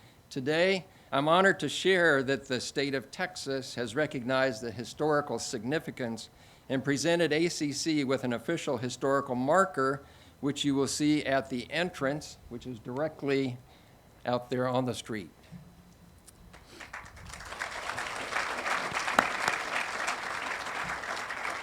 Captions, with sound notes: Today, I'm honored to share that the State of Texas has recognized the historical significance, and presented ACC with an official historical marker, which you will see at the entrance, which is directly out there on the street. (audience applauding)